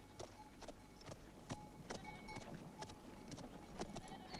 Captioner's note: bell clanging